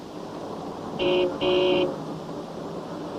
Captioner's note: car horns honking